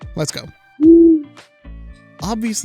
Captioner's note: owl hoots